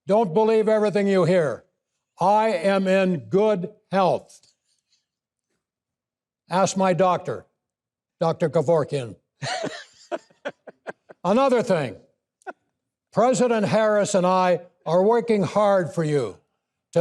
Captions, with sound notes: don't believe everything you hear. I am in good health. Ask my doctor, Dr. Kevorkian. (hosts laughing) Another thing, President Harris and I are working hard for you